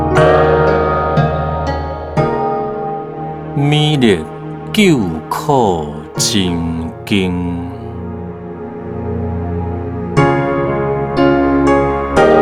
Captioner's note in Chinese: 台語朗誦